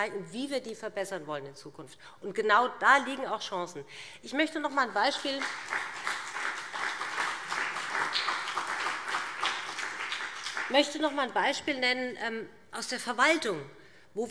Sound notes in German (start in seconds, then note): 5.0 Beifall BÜNDNIS 90/DIE GRÜNEN und vereinzelt CDU